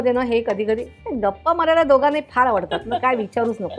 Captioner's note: chuckles